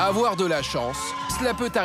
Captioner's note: hollers